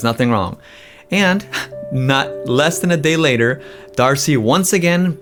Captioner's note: laughs